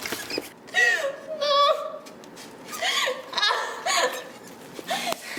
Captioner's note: sobbing